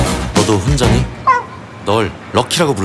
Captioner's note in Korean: 끙끙대는 강아지 소리